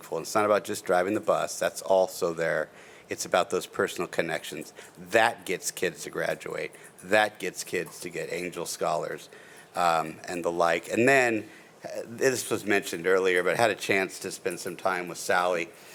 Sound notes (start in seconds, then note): none